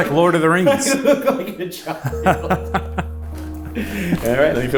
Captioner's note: both laughing